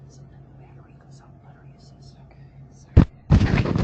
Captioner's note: whispering